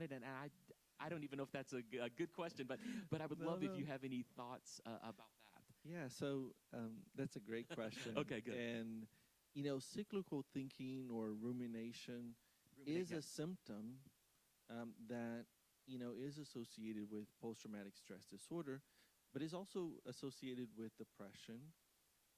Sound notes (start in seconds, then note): 7.2 chuckling